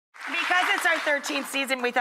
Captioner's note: audience claps